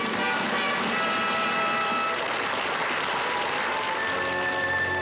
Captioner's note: triumphant fanfare music; audience applauds; elegant orchestral music